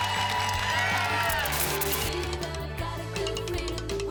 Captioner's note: static